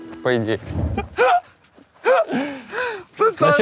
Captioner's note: laughs